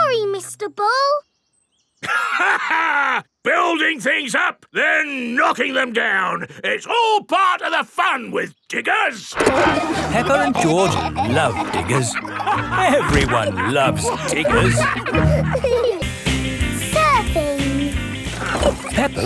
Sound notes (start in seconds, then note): 2.0 laughs; 10.0 peppa and george laughing